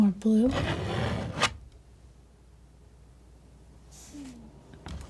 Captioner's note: scratching